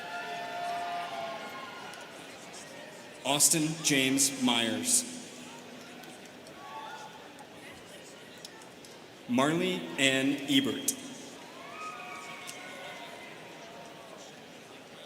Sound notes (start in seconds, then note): 0.0 students cheering; 7.4 students chattering; 11.4 students cheering